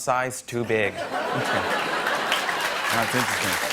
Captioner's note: laughter